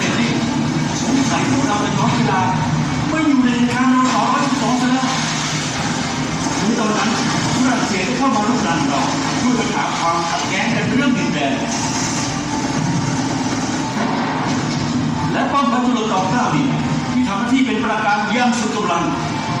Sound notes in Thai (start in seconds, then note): 11.5 เสียงเรือรบกัน